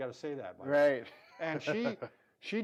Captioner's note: chuckles